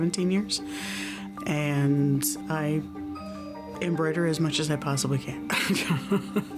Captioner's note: laughs